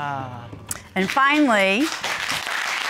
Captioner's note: applause